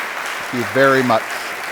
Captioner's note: audience applause